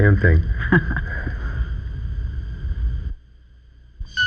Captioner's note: chuckles